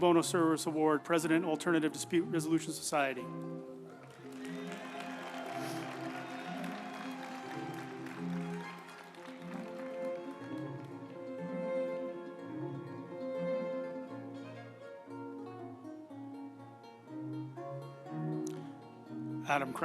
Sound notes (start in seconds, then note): 3.3 group applauding; 4.0 uplifting music